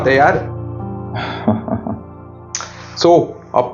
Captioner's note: laughs